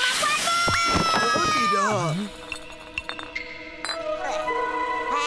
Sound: bottle of water rolling

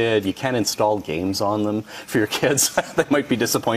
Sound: laughs

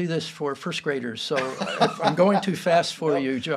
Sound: laughs

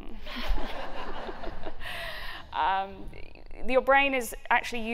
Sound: laughter

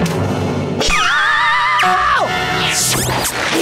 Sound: screaming

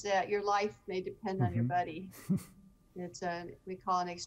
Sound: chuckling

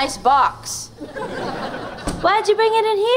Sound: laughing

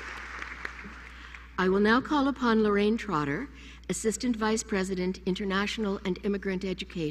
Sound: applause

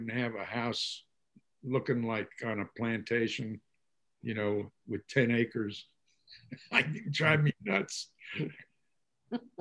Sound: laughs

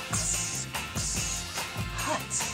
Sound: tsss

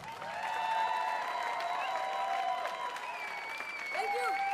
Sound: audience applauds

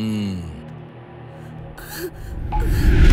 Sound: crying

